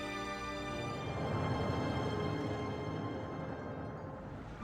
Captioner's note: distant rumbling